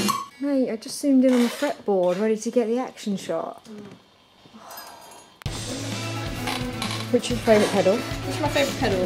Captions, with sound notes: Mate, I just zoomed in on the fretboard. Ready to get the action shot. Oh. *Sighs* Which is your favourite pedal? Which is my favourite pedal?